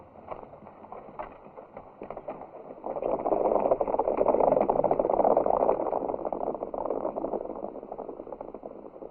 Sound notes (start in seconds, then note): 3.5 horses galloping